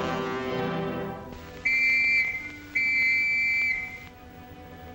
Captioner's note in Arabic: موسيقى درامية; صافرة البداية; موسيقى هادئة هادئة